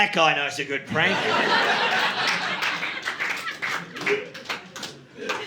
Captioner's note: audience laughing